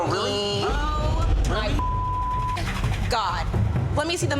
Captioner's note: beep